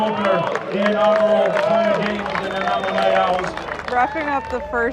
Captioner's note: crowd applauds; crowd cheers